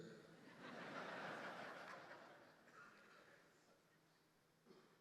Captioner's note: audience laughing